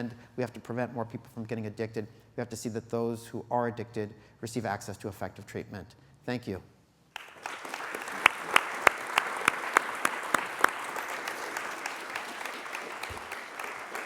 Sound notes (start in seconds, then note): 7.1 applause